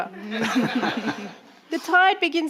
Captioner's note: audience laughing